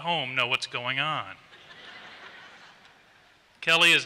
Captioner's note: laughter